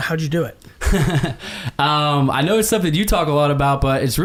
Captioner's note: laughs